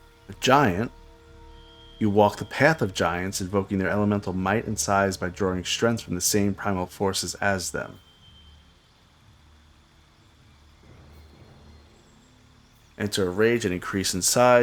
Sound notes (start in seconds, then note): 9.7 silence